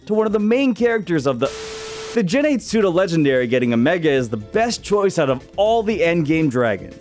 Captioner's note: static